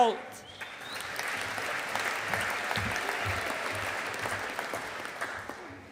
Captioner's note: audience applauding